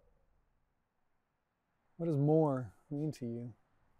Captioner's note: none